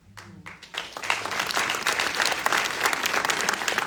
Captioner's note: audience applauding